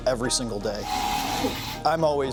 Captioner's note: 3D printer whirring